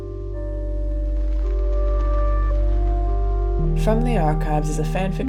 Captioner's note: click